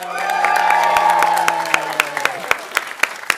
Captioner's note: audience cheering and applauding